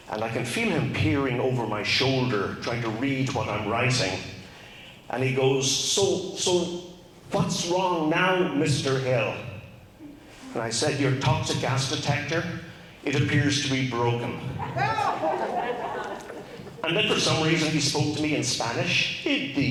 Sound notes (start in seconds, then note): 14.4 crowd laughs; 19.5 speaks in Spanish